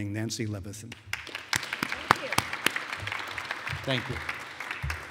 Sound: applause

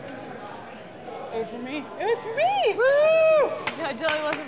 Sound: woos

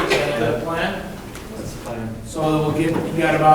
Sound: coughing

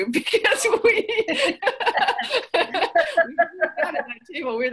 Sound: everyone laughs; audio glitch

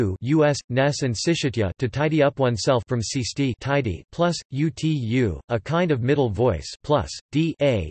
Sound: a kind of middle voice

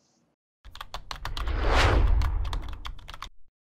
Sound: typing

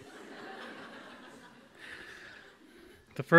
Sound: audience laughs

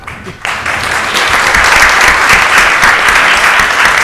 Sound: audience applauds

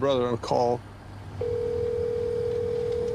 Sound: line ringing

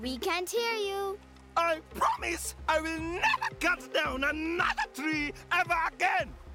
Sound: yelling

